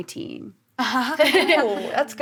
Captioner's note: laughs